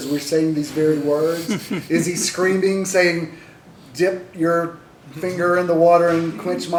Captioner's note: laughter